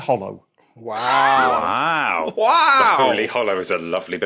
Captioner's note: wheezes